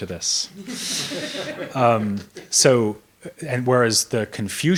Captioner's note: audience laughs